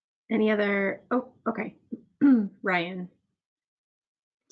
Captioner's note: clears throat